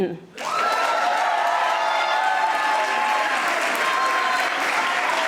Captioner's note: audience applauding